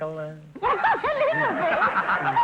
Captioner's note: laughing; audience laughter